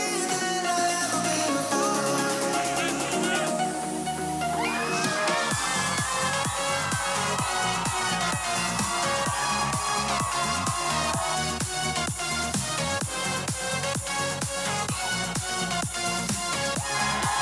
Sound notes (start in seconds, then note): 5.1 students cheering